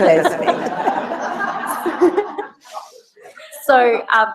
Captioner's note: laugh